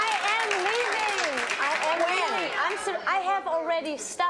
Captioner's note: applause